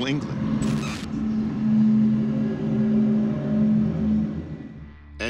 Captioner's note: humming